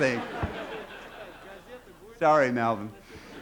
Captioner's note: laughter